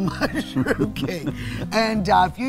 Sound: both laugh

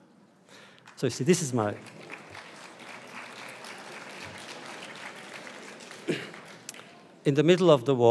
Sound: audience applause

